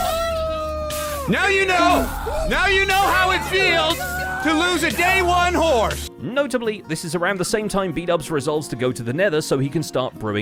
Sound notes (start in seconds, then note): 0.0 assorted alarmed screaming